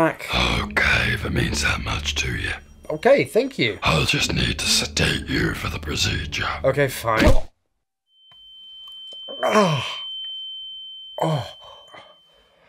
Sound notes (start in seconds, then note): 7.2 slap